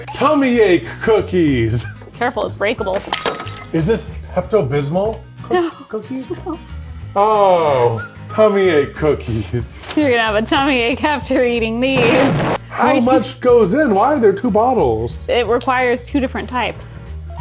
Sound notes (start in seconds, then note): 3.1 glasses breaking; 7.1 laughs